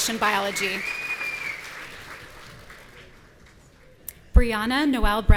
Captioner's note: audience cheering